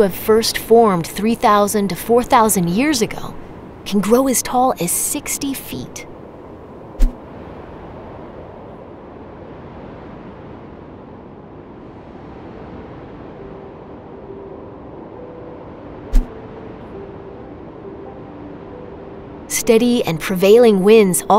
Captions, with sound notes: thought to have first formed 3,000 to 4,000 years ago, can grow as tall as 60 feet. [wind blowing] [soft piano music playing] Steady and prevailing winds